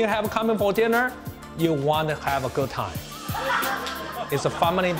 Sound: laughter

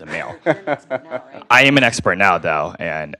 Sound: laugh

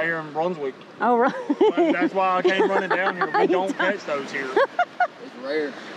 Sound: laughs

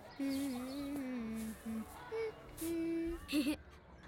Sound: child humming; child giggling

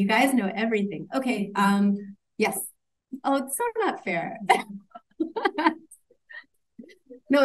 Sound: laughs

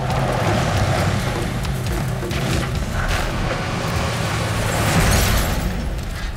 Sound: tires grinding on gravel; glass shattering

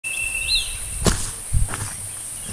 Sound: footsteps

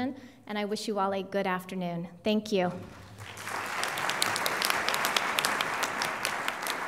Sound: applause

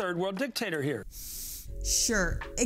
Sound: sharp breath in

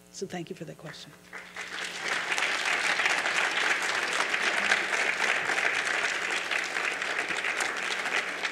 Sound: applause

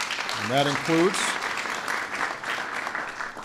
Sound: audience Applauding

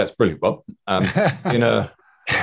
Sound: laughing

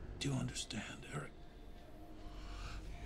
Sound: inhales deeply

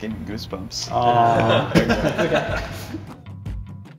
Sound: laughter

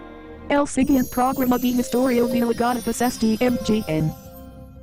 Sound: Microsoft Mary speaking Spanish

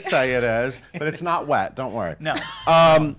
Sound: laughs

